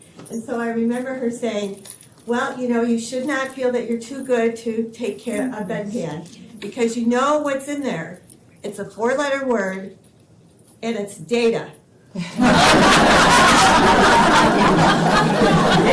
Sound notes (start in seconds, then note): 12.2 laughter